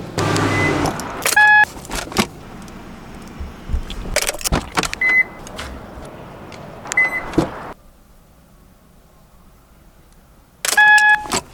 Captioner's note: various car related noises